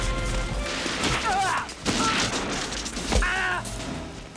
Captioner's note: gunfire; grunting